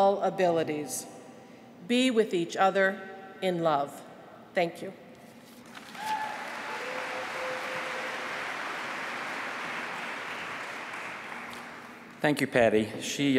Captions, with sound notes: BE WITH EACH OTHER IN LOVE. THANK YOU. [APPLAUSE]